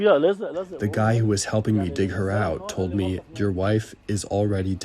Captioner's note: through translator